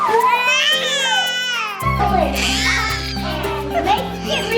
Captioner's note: screams